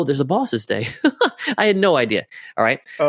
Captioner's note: laughs